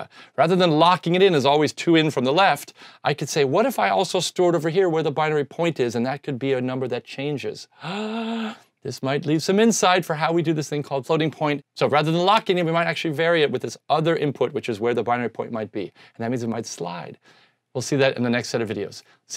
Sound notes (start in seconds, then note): 7.7 gasps